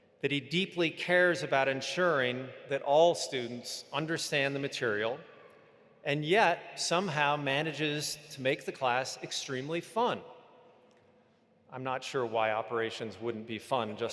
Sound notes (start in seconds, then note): none